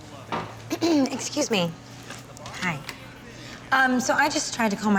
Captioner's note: clears throat